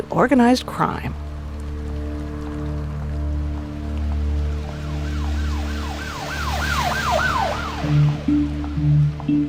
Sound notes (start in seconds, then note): 2.2 suspenseful music; 4.2 siren wailing